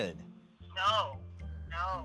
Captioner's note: on phone